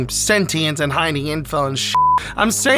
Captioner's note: beep